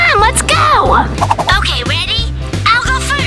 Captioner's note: whooshing